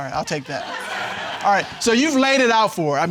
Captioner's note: all laughing